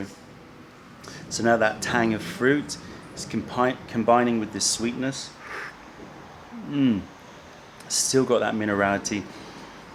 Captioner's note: sips tea